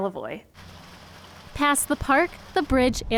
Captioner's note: water trickling